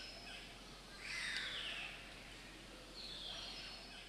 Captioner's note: bird chirping